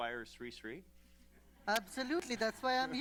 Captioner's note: laughter